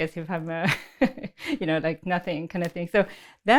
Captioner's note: laughs